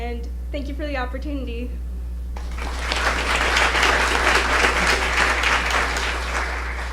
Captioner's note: applause